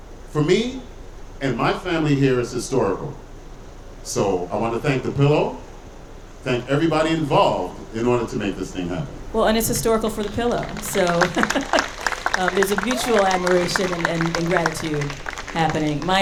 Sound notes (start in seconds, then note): 10.2 audience cheering